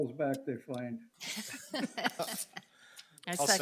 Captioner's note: everyone laughing